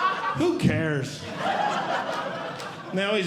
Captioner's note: audience Laughing